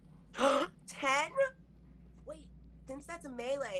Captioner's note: gasps